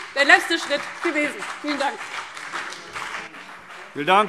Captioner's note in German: Beifall CDU und BÜNDNIS 90/DIE GRÜNEN